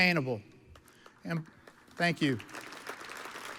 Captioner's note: audience applauds